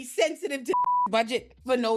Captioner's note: beep